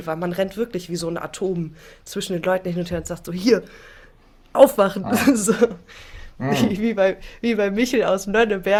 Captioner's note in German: gelächter